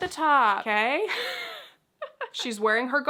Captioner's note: laughs